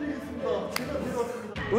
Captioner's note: slap